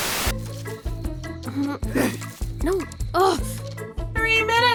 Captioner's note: groaning